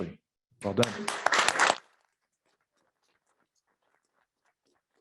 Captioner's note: applause